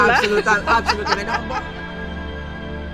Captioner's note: laughing together